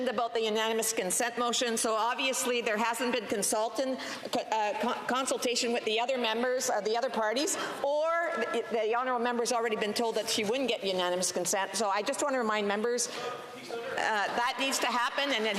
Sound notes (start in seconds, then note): none